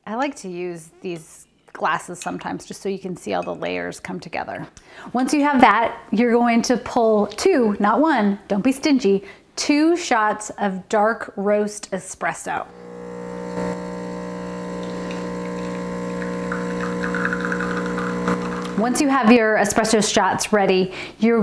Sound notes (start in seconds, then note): 12.7 whirring